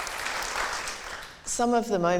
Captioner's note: applause